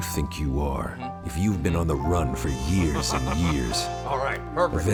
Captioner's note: laughs